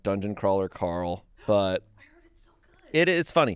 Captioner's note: gasps